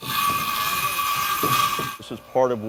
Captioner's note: saw screeching